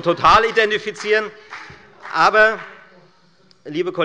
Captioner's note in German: Heiterkeit und Beifall bei der FDP